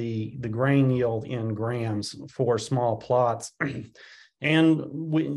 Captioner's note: clears throat